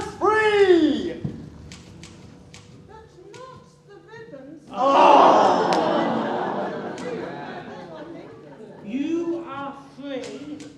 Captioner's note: ohhh